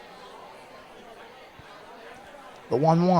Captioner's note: indistinct chatter